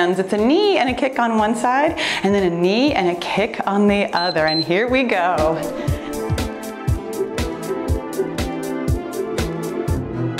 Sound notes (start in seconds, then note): 4.1 timer beeps; 5.7 cheerful music